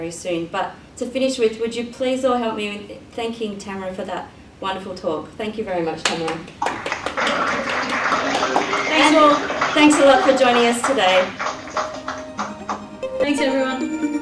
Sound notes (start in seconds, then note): 6.0 audience clapping off screen